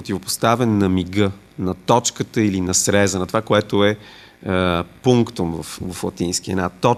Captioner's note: Latin